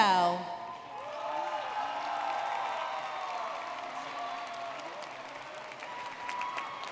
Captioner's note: audience cheering and clapping